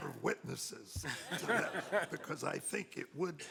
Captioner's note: laughing